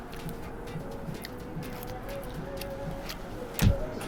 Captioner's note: chews loudly; punches land